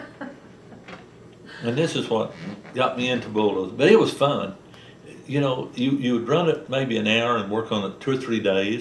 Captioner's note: laughter